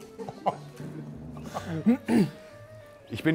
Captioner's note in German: Räuspern